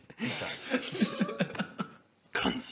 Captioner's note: unrepentant laughs